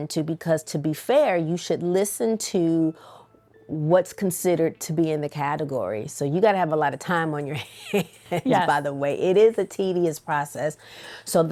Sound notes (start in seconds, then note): 7.6 chuckles